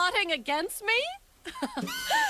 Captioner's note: laughing